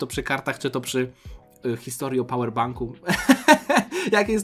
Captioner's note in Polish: śmiech